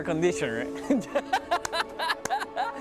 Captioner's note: laughs